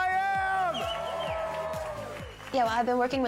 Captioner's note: cheers and applause